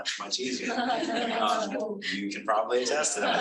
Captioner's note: audience laughing